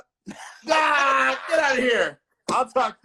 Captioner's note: laughing